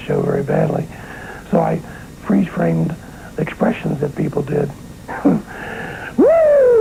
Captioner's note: chuckles